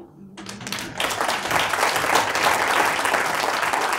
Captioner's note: audience applauding